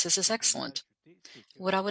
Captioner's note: speaking French